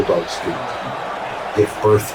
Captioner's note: crowd Noises